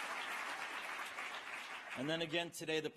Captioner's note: applause